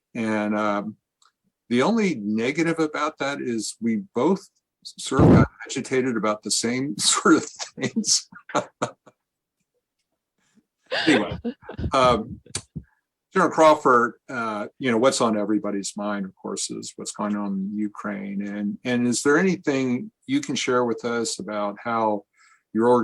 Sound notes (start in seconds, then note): 7.9 laughs